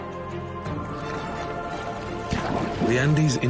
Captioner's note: water gurgling